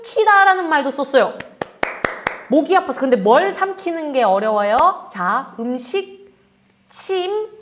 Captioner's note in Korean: 박수